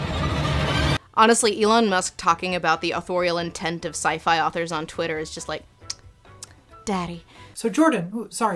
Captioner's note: kiss